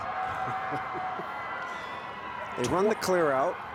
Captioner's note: both laughing